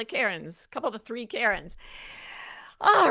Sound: inhales deeply

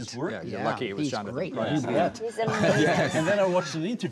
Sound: laughs

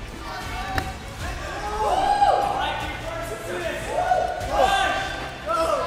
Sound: people cheering

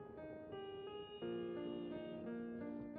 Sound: vehicle honking

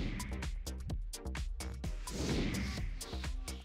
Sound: upbeat music; whooshing

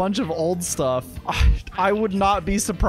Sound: sigh of defeat

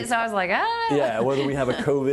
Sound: laughing

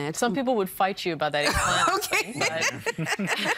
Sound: all laughing

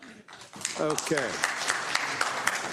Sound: applause

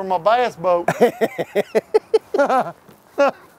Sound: laughing

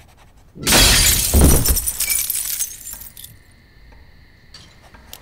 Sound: scribbling; glass breaking

